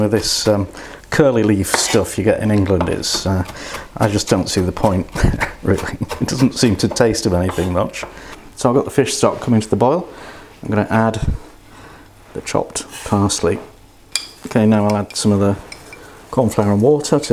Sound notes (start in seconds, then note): 5.7 laughs